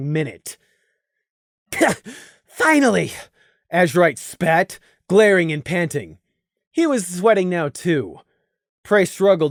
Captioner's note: cough